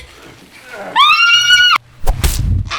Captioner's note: screaming